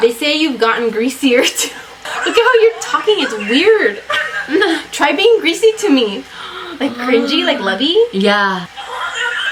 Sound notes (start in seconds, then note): 2.0 laughs; 4.0 both laugh; 6.3 gasps